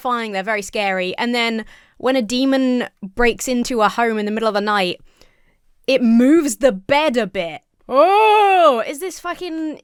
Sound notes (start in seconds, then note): 7.9 imitates fearful moaning